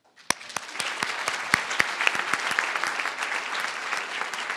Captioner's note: crowd applauding